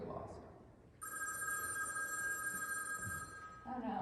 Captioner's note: phone rings